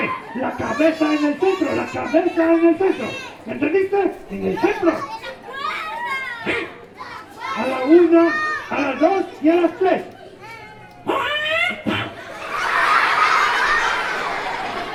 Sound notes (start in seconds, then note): 10.8 puppet voice; 12.7 laughing